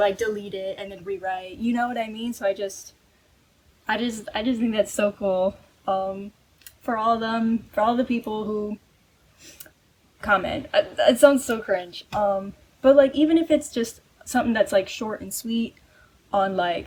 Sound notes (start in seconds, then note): 10.6 stammering